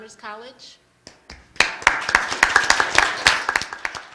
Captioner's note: applause